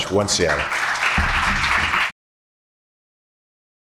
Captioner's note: applause